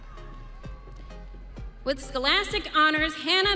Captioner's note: audience cheering